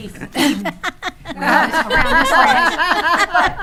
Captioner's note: attendees laughing